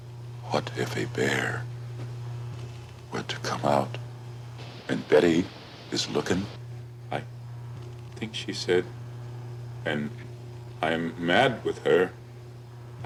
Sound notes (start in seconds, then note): none